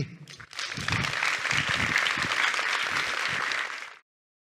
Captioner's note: applause